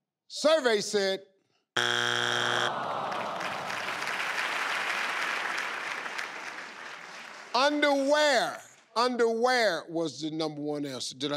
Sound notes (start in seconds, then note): 1.8 buzzer beeps; 2.6 audience sighs